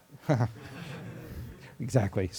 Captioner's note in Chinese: 课堂上的笑声